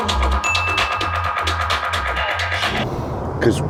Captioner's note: bell chime